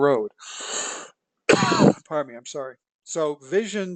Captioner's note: cough